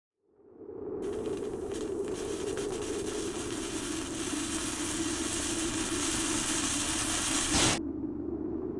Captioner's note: crackling of fire and whooshing of wind